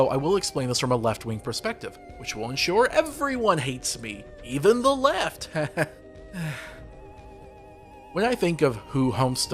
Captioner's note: bad laugh